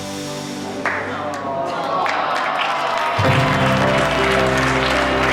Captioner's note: Murmúrios simpático e aplausos